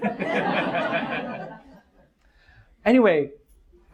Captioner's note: audience laughs